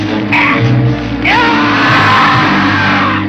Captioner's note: man yelling